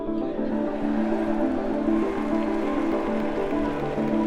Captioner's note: audience applauds